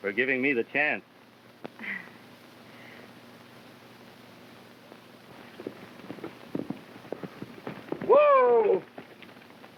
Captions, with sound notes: for giving me the chance. (Mary chuckles) (hooves clopping) - Whoa!